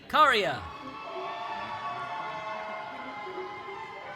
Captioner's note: cheering